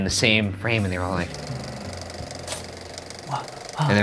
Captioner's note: camera reel rolling